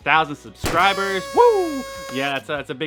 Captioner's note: party horn blowing